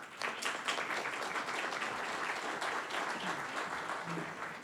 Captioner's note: audience applauding